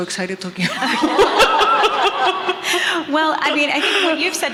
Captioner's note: everyone laughing